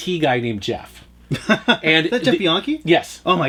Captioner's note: laughs